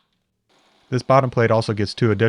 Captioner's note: drill whirring